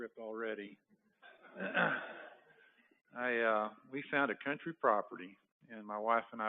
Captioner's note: laughter